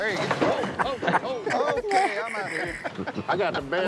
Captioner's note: laughing